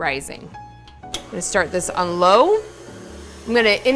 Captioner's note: stand mixer whirring